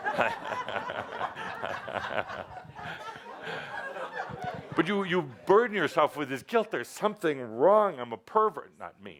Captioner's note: laughter